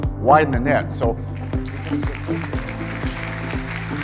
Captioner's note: applause